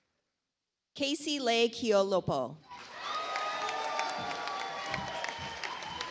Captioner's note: audience applauds